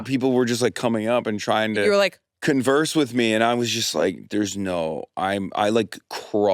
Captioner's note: none